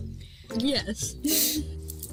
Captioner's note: laughs; nervously laughs